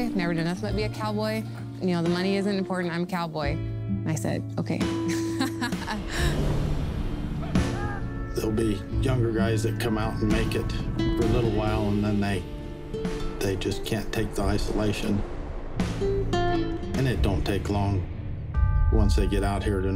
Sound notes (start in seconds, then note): 5.1 laughs